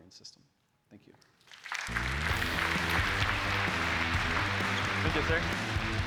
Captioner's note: applause